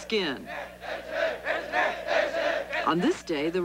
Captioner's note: men chanting in Japanese